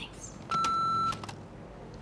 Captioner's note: beeps